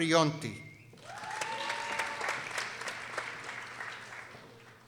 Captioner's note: people cheering